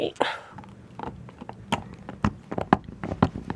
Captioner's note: sounds of dog chewing on bone